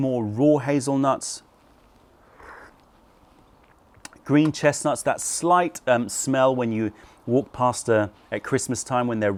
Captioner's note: sips tea